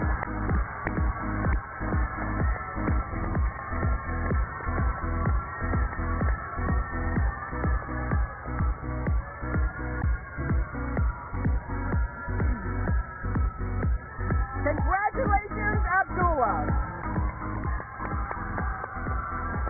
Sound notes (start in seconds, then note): 1.6 cheers and applause